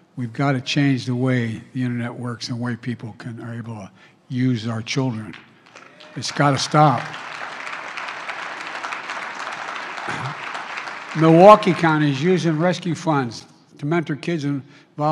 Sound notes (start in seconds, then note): 9.3 applause